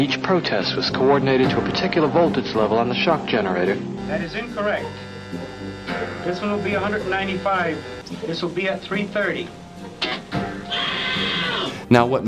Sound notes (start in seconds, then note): 5.1 buzzing Nosie; 10.0 screaming